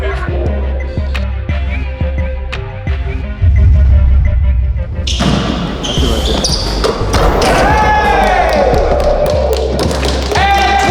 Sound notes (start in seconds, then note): 0.1 upbeat music; 7.9 fans cheering; 9.8 applauding